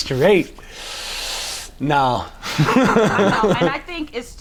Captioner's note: chuckles